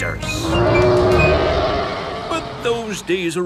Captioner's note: roaring